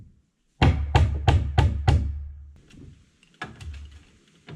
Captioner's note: hammer pounding